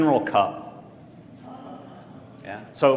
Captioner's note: laugh